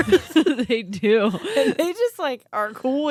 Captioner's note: laughs